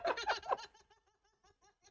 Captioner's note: both laugh